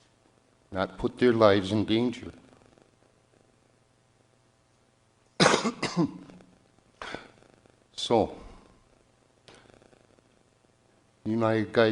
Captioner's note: coughs